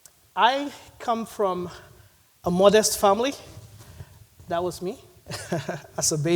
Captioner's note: laughs